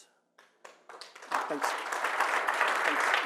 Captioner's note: applause